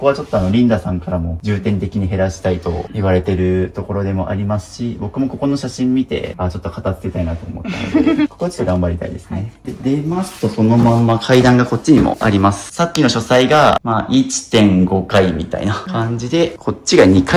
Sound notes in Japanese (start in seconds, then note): 7.6 笑い